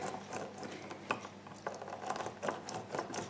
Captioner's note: sound of lime rubbing on juicer